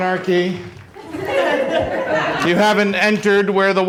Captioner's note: laughter